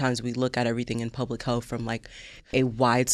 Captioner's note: none